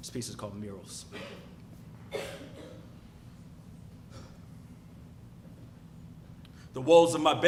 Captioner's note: cough